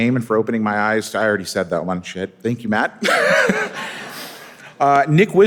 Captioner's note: laughs